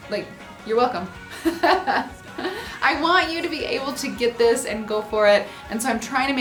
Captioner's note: laughs